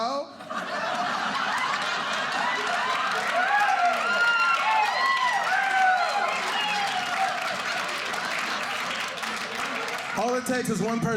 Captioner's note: audience cheering